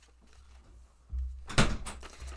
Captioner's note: door-closes